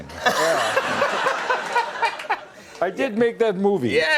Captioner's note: audience laughter